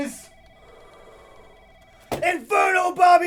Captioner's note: phone ringing